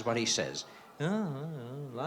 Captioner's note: audience murmuring